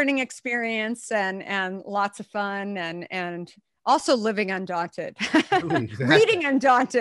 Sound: laughs

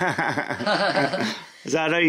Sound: laughs

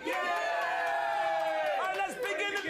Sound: audience cheering

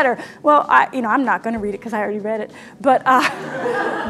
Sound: laughter

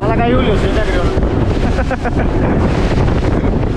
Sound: laughs

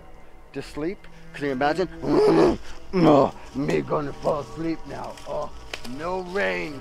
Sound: grunts

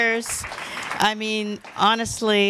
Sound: applause

